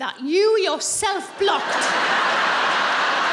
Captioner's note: laughing